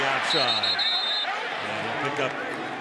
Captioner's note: whistle